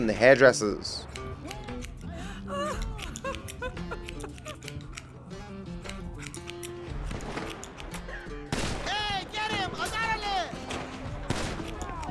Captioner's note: hair cutting sounds